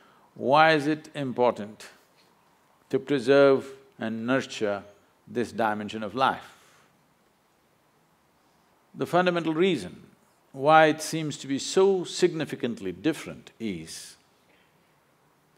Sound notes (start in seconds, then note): none